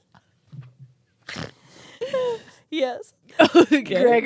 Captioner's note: snorts; inhales loudly